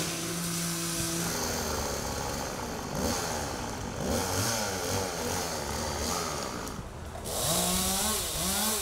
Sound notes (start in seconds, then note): 5.2 chainsaw buzzing